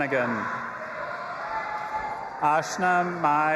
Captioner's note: audience applauding and cheering